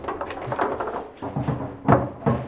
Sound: dull noises

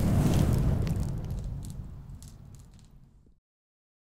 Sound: fire blazing

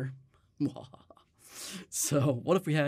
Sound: laughs

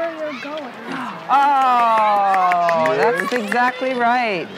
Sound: claps hands

